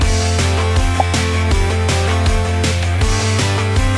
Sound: popping

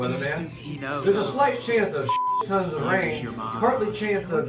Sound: beep

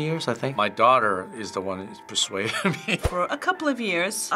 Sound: laughs

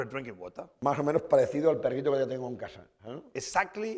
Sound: speaking spanish

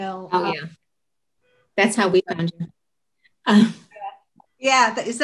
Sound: chuckle

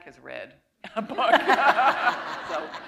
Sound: laughter

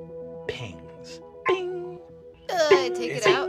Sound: pinging

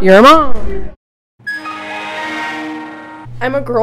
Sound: Windows shutting down

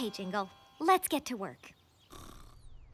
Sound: snoring

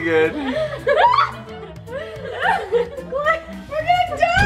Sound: girls laugh

